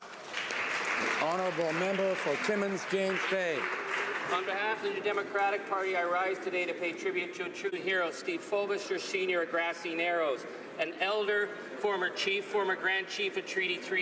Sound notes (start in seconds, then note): 2.8 some Applause